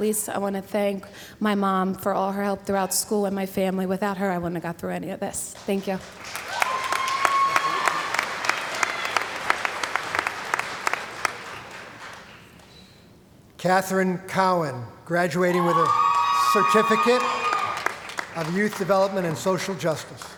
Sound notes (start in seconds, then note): 6.0 cheering & Applause; 15.4 background crowd cheering